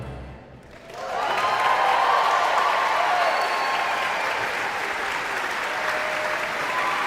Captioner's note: audience applauds; audience cheers